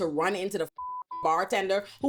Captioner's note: beep